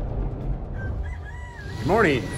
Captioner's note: rooster crows